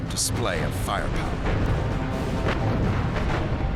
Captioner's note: gunfire